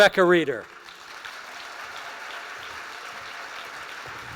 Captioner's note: applause